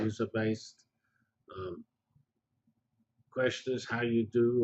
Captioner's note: pause